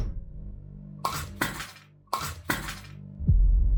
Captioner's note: the sound of it dropping